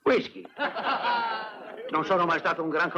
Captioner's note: laughing